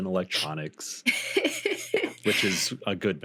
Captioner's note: laughing